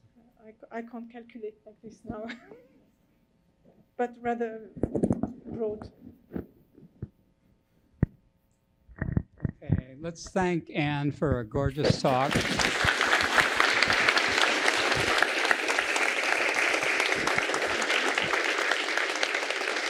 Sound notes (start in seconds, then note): 11.9 applause